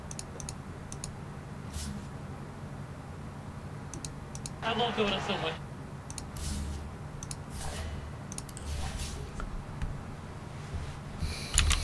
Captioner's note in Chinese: 喝彩